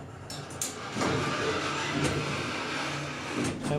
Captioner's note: mechanical sounds